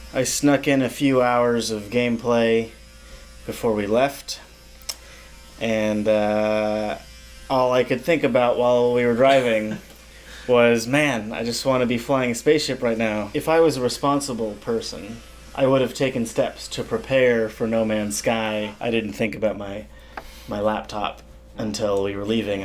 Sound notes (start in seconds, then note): 9.3 chortles